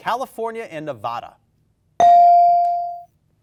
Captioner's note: bell dings